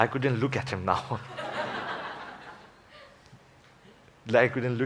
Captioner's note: laughter